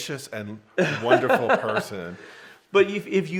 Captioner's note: laughing